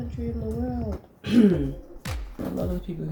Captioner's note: clears throat in disagreement